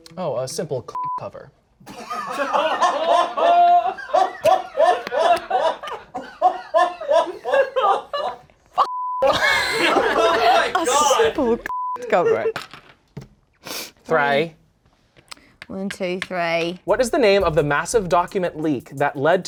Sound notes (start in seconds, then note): 0.9 beep; 1.9 everyone laughs; 11.7 beep